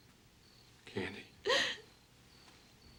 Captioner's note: crying